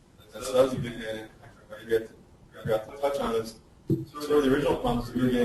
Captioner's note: distorted speech